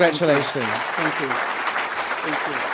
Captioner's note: applause